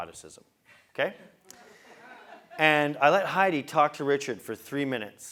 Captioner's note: laugh